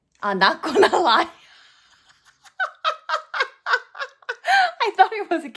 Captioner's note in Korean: 빵터짐